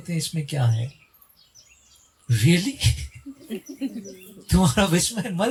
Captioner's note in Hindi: हंसी